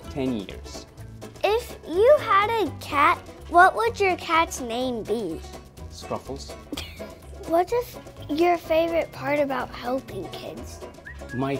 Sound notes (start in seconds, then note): 6.7 laughs softly